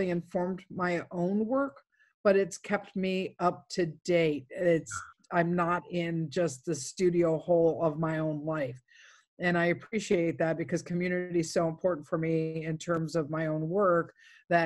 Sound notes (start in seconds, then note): none